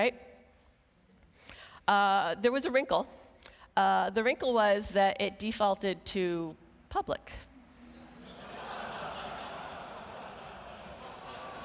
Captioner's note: laughing